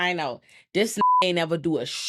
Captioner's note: beep